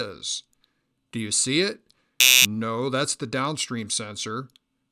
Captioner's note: buzzer